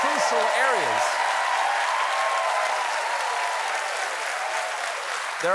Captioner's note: cheers and applause